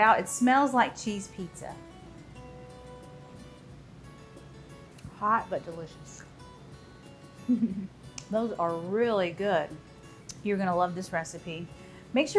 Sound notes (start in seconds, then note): 7.4 giggles